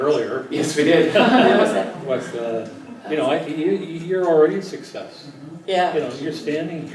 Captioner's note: laugh